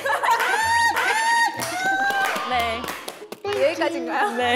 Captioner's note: laughing